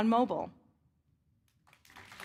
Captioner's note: applause